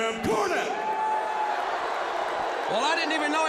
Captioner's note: crowd cheering